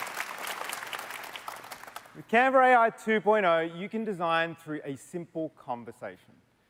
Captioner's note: applause